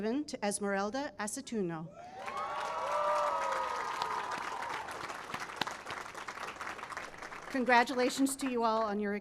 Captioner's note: cheering and applause